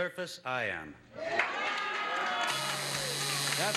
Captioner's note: buzzer sounds